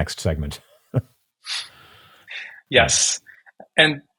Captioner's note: chuckling